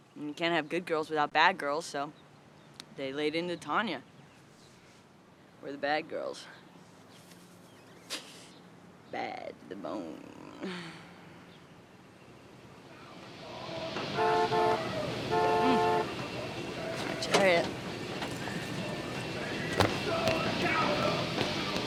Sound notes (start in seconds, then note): 13.5 car honking; 19.1 dramatic music